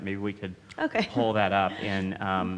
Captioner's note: laughs